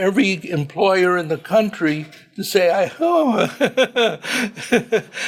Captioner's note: laughs